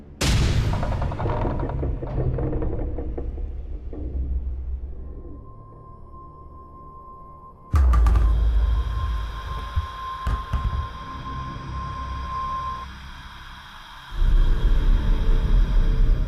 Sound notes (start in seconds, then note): 0.0 sudden ominous music; 5.5 gentle tense music; 7.8 light sphere clattering; 11.0 soft tense music